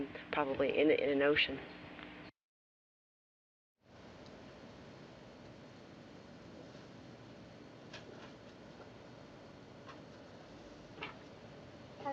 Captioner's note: silence